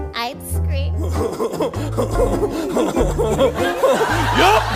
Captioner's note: horny laughing